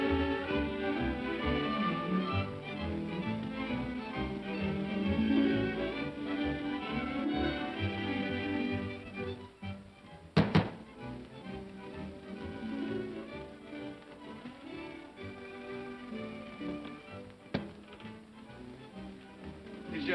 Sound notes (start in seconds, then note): 0.0 upbeat music; 10.4 knocking on door; 12.2 upbeat music